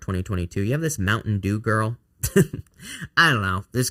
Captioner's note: chuckles